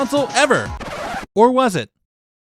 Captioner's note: record scratch